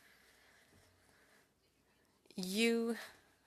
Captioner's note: speaking French